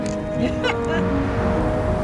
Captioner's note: laughs